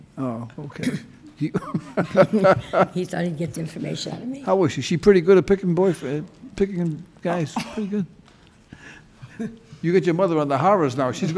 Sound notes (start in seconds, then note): 1.4 judge laughing